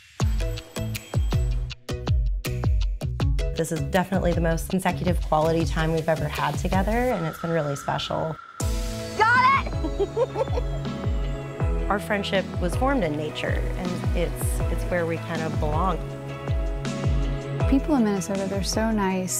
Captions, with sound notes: [upbeat music] This is definitely the most consecutive quality time we've ever had together, and it's been really special. Got it! [laughter] Our friendship was formed in nature, and it's where we kinda belong. People in Minnesota, they're so nice,